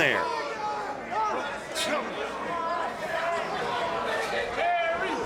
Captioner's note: crowd yells